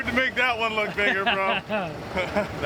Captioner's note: laughing